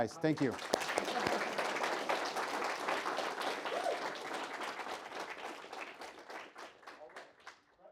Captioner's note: audience applauding